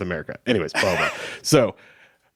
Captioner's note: chuckling